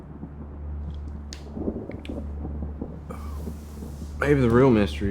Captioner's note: thunder rumbling